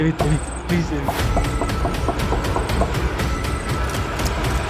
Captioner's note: keeps on Knocking